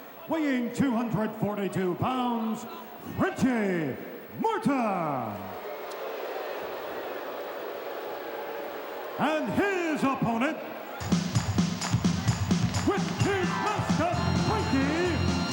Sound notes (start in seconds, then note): 5.8 crowd booing; 11.0 upbeat music